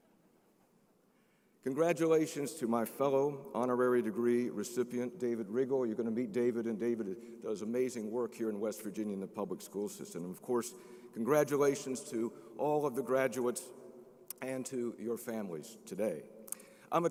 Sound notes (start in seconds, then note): none